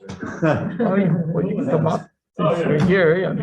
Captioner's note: members laughing